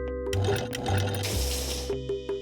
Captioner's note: refrigerator whirring